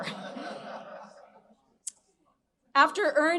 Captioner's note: audience laughing